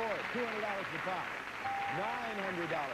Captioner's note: audience applauding